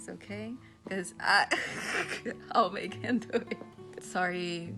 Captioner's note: laughing